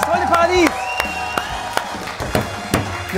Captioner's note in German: Jubel, Applaus